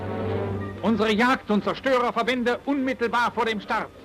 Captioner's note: speaking German